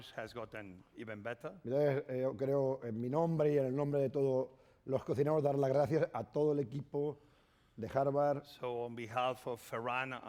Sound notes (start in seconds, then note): 2.7 speaking spanish